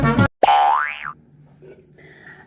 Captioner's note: boing